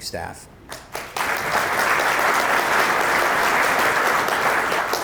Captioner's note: audience applauding